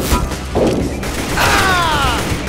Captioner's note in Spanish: hombre se queja